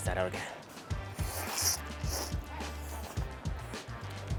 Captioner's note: slurping